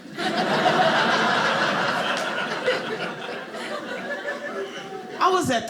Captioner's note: audience laughing